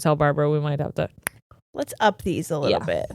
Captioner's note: tongue clicking